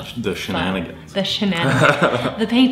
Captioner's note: laughing